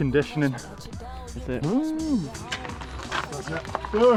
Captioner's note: imitating motor revving